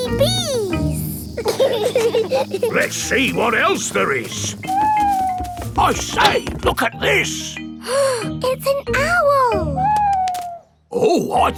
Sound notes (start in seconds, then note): 1.9 bees buzzing; 5.3 owl hooting; 8.3 gasps